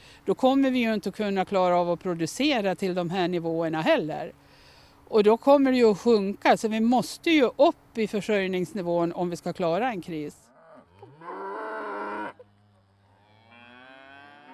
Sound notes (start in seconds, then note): 13.0 cow moos